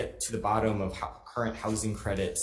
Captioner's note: none